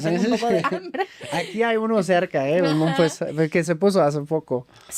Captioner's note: laughs